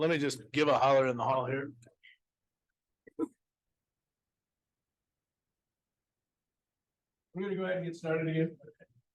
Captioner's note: pause